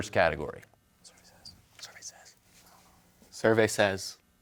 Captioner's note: whispering